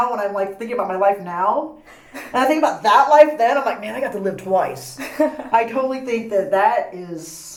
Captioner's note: laughs